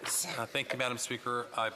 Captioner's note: off mic